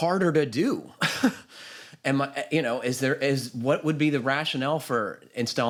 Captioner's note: chuckles